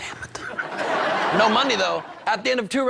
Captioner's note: whispering